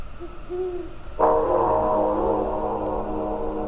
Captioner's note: owl hoots again